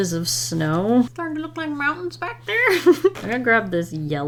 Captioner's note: giggles